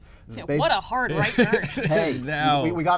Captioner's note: laughs